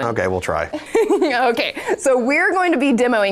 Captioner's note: laughing